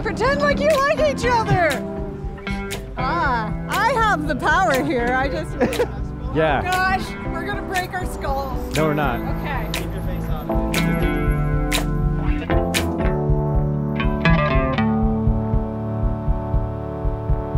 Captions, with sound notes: - Pretend like you like each other! Ah, I have the power here. I just- - (laughs) Yeah. - Gosh, we're gonna break our skulls. - No, we're not. - Okay. (gentle upbeat music)